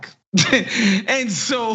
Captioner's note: laugh